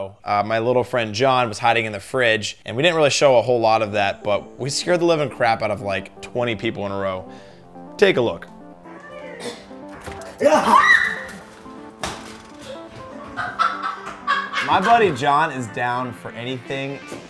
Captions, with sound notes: My little friend, John, was hiding in the fridge and we didn't really show a whole lot of that, but we scared the living crap out of like 20 people in a row. Take a look. - Yeah ha! (woman screaming) (woman laughing) - My buddy, John, is down for anything.